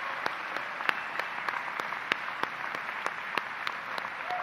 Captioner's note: applause